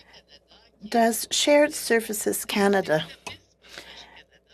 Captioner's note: speaking French